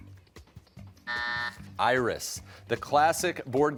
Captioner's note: buzzer